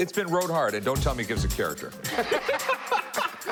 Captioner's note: laughing